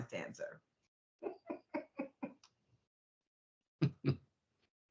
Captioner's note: chuckling